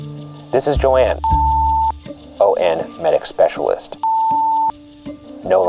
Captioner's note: beep